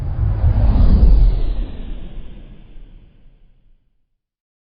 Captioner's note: deep base swooshing